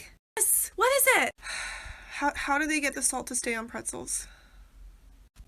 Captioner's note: sigh